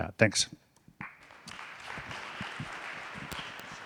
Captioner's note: audience applauding